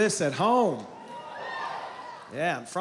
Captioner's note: cheering